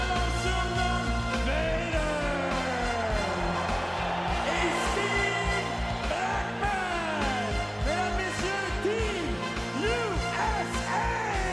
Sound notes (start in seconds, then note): 3.6 crowd cheering